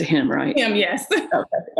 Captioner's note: laughs